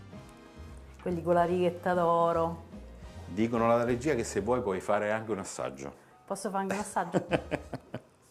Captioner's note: Risate